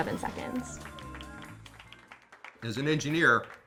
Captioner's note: applause